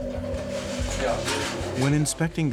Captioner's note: speaking Georgian